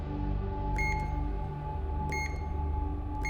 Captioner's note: beeping